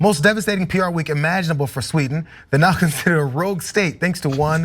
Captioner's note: laugh